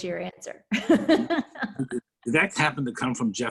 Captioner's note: laughs